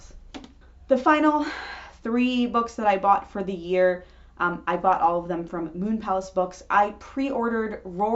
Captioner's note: big sigh